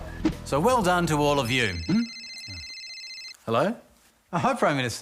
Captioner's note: phone rings